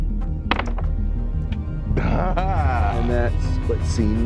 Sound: dice clatter; laughing

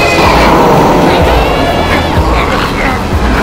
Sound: Shifter Screams

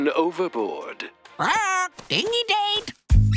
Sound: squawking

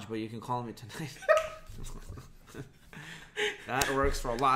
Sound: laughs

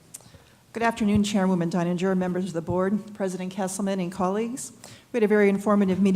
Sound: none

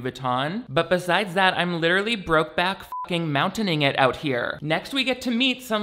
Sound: beep

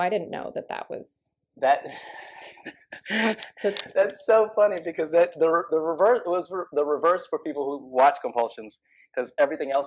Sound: laughter

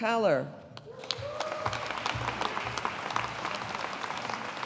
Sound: audience applauding

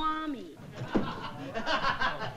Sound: laughing

